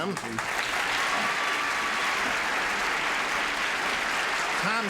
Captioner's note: applauding